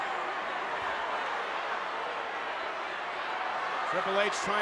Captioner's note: ambient chatter